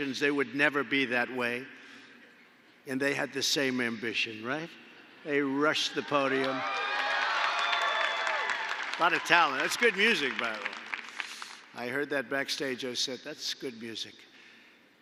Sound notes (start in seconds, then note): 6.3 applause